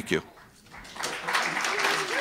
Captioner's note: applause